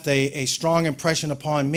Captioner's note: none